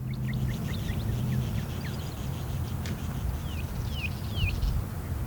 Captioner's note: birds chirping